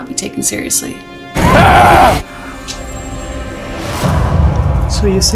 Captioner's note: Adam yelling